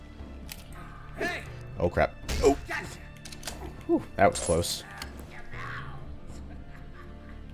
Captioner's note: thwack; panicked grunt